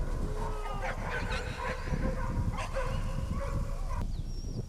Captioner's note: dogs barking